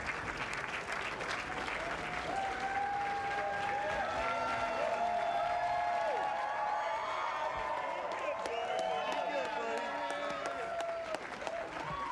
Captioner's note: cheers and applause